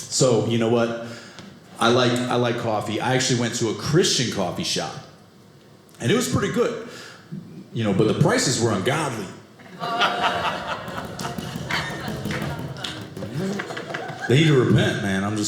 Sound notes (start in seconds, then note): 9.6 audience laughing